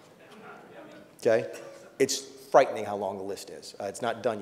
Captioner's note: laughs